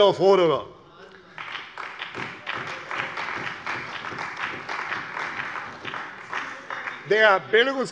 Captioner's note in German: Beifall bei der CDU